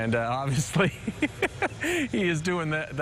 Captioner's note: laugh